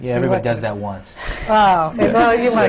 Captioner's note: laughter and sighs from the panel